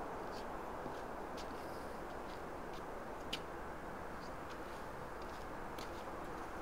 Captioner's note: traffic humming; pattering footsteps